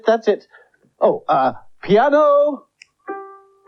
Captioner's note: clicks Fingers